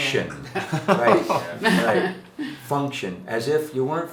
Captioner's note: chuckling